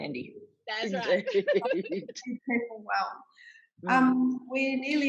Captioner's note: both laughing